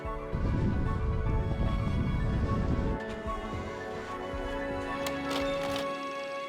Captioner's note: sound of skiing; sound of projector